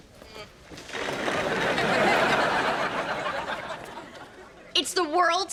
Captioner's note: audience laughs